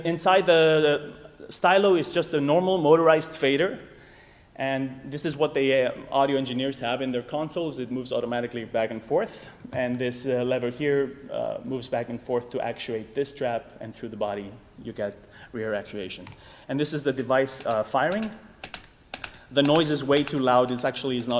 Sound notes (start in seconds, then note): 17.5 clicking